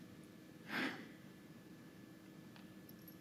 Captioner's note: sighs